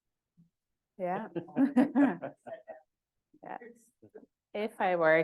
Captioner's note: chuckling